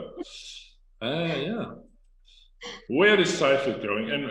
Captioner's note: chuckles